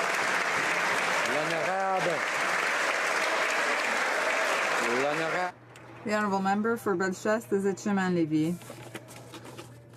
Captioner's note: some Applause